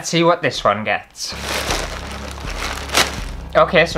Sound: ripping Parcel Like A Savage

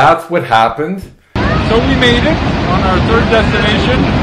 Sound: loud waterfall

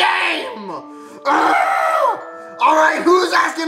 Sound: groans

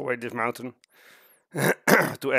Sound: cough cough

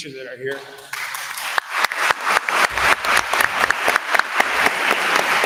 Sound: attendees applauding

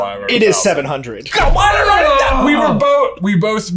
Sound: both groaning

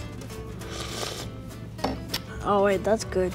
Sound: boys speak foreign language; boys slurping

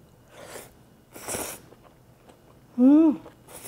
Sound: slurps

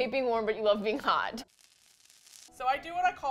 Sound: fire crackling

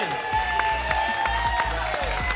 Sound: applause and cheering

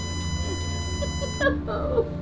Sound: woman sobbing

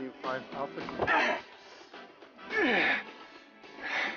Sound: grunting; breathing heavily

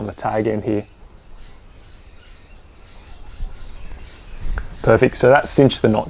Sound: birds chirping

